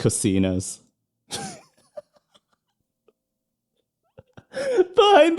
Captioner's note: laughter